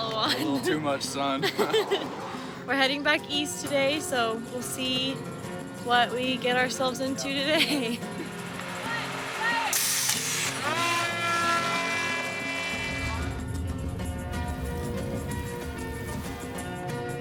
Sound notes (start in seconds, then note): 1.2 laughing; 7.4 laughing; 9.8 whooshing; 10.8 drone buzzing